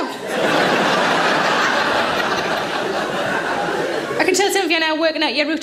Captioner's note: audience laughing